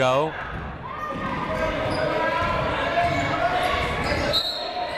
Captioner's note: people shouting in the crowd; whistle tweeting